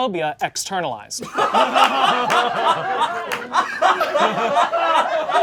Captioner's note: audience laughing